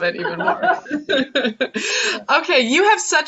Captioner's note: laughs